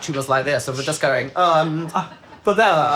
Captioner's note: crew laughing